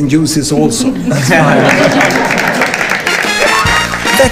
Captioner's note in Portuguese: risos